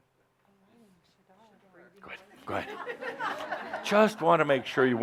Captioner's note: laughter